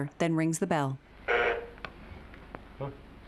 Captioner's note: bell buzzing